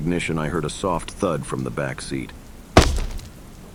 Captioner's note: thud